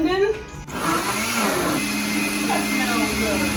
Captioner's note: blending sound